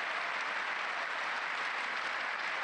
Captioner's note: applause